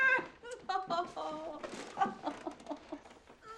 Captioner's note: laughs